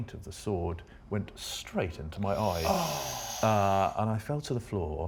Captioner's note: all gasp